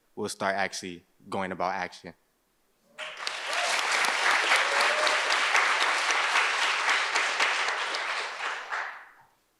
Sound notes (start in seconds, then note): 2.9 audience applauds